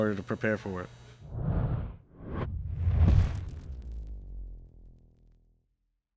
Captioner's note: swoosh